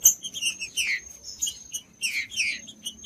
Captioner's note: trinca ferro cantando